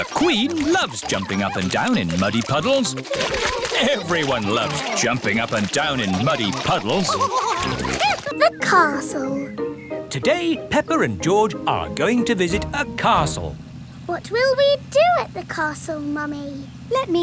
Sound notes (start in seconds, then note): 0.0 both laughing; 7.8 all laughing